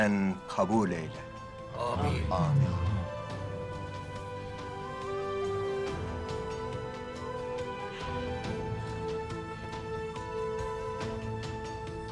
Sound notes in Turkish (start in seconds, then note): 1.7 Hep bir ağızdan; 6.1 Hüzünlü müzik